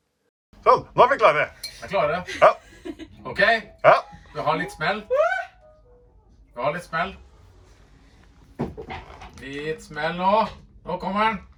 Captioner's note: talking Norwegian